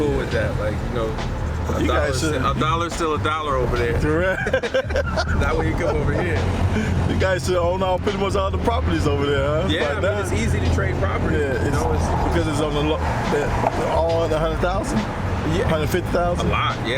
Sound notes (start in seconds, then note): 4.0 laughs